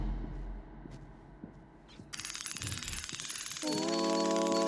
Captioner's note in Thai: เสียงฝีเท้า